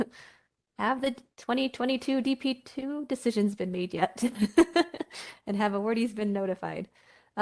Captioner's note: laughter